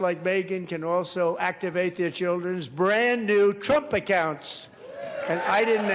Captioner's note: applause